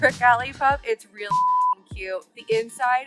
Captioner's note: beep